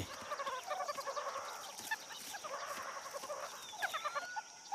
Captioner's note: squeaking and purring